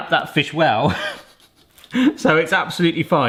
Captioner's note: laughs